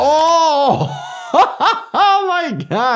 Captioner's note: laughs